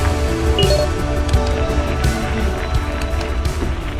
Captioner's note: beeping sound